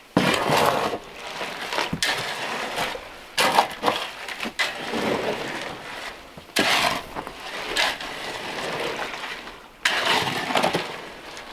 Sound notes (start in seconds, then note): 2.6 scraping